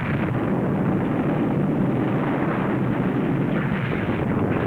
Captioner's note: volcano rumbling